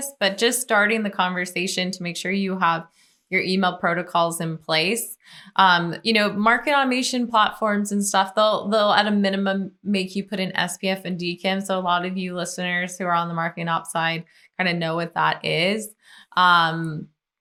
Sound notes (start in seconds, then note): none